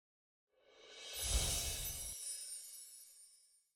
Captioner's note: bells chime